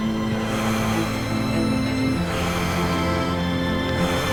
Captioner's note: deep breathing